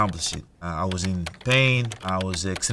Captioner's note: keyboard clicking